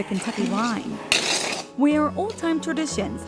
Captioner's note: spoon scraping